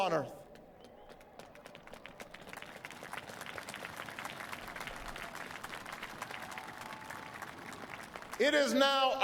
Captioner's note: applause